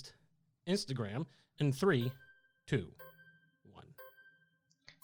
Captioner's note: melodic timer